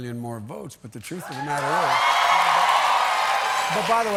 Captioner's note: cheers and applause